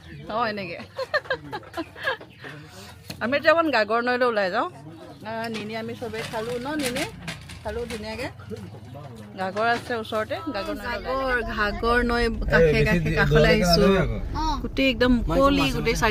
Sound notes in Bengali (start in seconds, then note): 0.8 সশব্দ হাসি